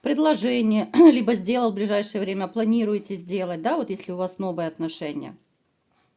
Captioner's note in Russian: откашливается